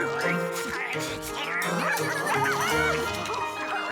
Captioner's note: barks and growls